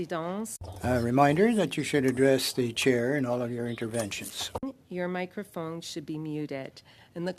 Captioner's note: speaking French